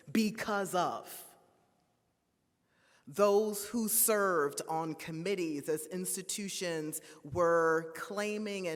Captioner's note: none